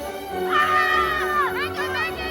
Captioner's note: both screaming